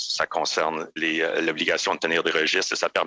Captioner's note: speaking French